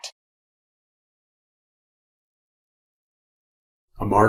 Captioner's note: silence